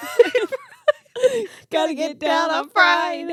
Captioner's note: laughing